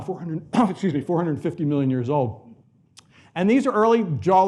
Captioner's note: coughs